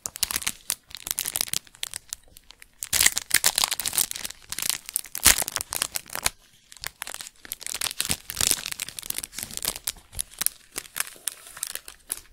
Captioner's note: crinkling